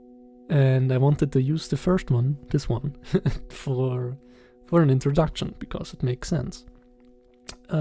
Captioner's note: giggles